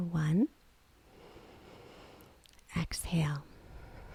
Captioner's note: exhales